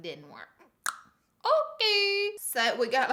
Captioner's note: pop